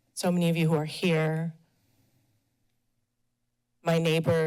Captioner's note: pause